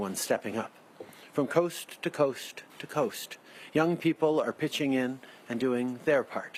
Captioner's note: speaking French